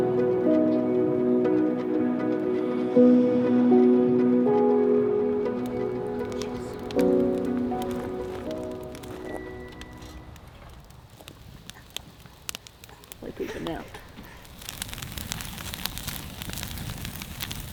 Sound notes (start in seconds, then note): 9.5 fire crackling